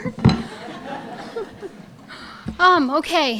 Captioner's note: laughter